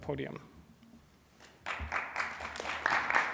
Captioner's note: applause